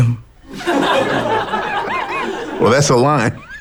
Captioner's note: laughs